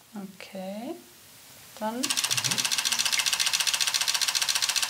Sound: camera clack

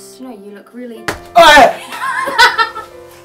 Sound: screams

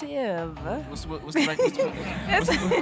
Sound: audience laughing

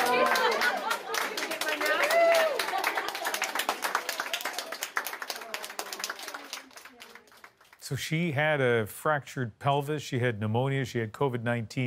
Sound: applause

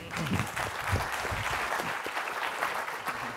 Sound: applause

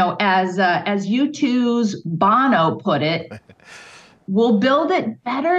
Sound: laughs

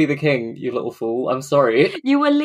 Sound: laughs

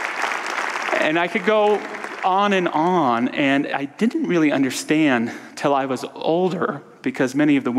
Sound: audience applause

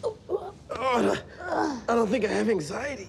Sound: grunting

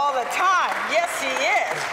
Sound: applause

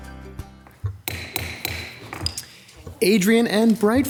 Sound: gavel banging

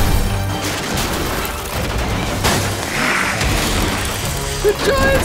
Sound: dramatic music; growling and hissing

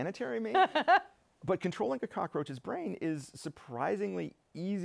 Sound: laughter

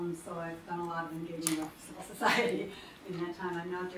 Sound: laughs

